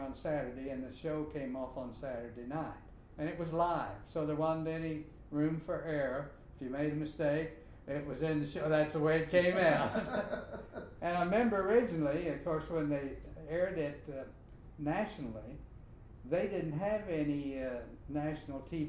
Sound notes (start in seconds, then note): 9.6 both laughing